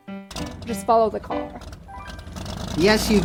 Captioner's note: car engine revs